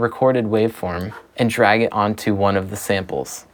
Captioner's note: mouse swishing